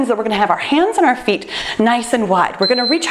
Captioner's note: timer beeps